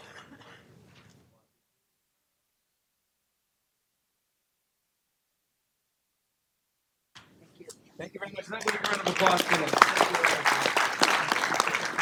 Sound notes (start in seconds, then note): 0.8 applause